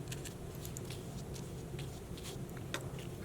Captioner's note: brushing